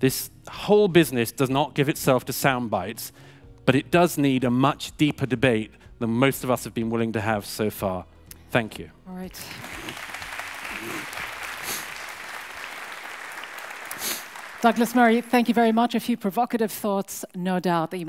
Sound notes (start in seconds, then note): 9.4 audience applauds